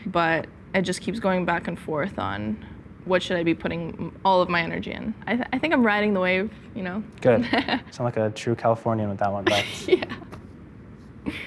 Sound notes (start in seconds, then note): 9.4 laughs